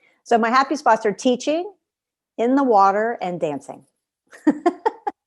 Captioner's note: laughter